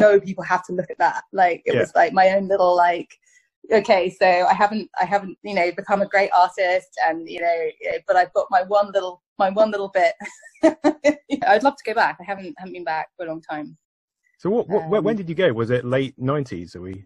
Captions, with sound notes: people have to look at that. It was my own little, like, OK... so I haven't become a great artist, but I've got my one little bit *chuckles* -I'd love to go back. I haven't been back for a long time. So when did you go, was it... late nineties?